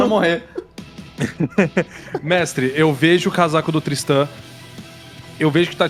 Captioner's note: laughs